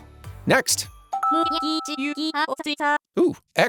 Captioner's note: Animal Crossing dialog noises